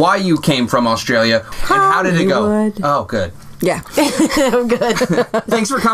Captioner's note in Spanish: risas